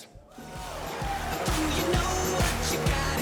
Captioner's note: applause